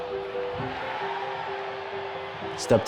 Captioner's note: crowd cheers; soft piano music continues